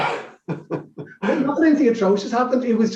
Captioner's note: laughs